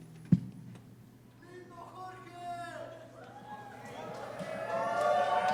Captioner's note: cheering